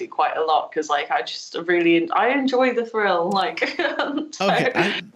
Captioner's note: laughs